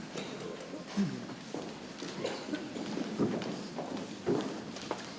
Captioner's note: people chattering softly